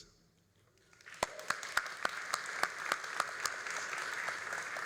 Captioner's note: all applauding